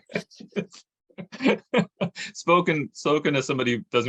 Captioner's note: chuckles